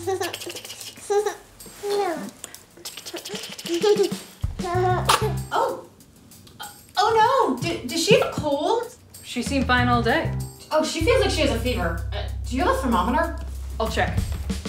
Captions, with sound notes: (giggling) (coughing) Oh, oh no. Does she have a cold? - She seemed fine all day. - Oh, she feels like she has a fever. Do you have a thermometer? - I'll check.